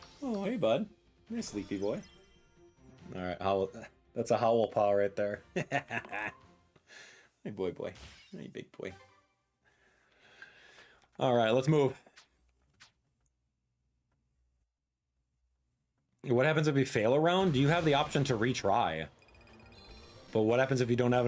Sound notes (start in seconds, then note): 5.6 laughing